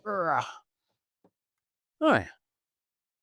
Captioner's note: grunts